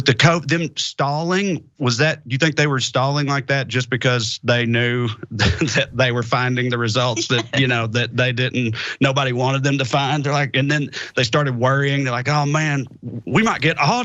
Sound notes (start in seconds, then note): 4.8 laugh